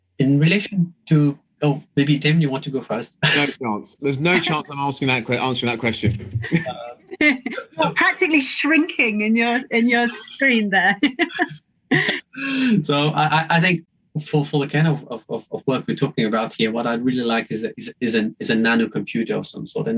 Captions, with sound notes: - In relation to... Maybe Tim, you want to go first? - No chance. There's no chance. I'm asking that... Answering that question. (all chuckles) - Practically shrinking in your screen there. (chuckles) - So I think for kind of work we're talking about here. What I'd really like is a nanocomputer of some sort